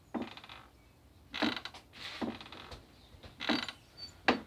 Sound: chair creaking

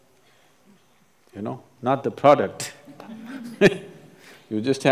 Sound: laughs

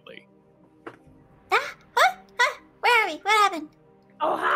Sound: gasping

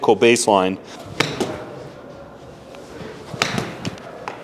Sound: ball thuds

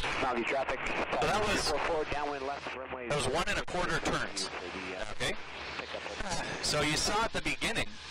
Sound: radio chatter

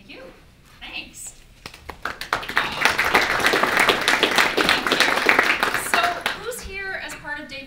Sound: audience applauses

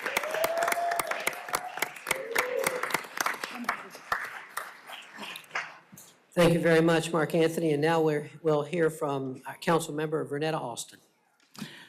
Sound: applause

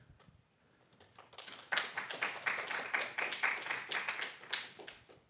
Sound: applause

